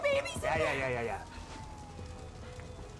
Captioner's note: fire truck sirens